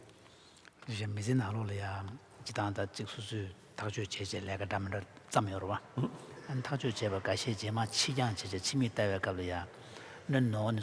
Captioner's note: foreign Language